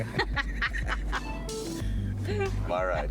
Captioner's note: laughing